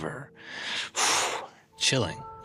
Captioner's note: exhales sharply